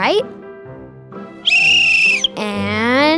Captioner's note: whistle blowing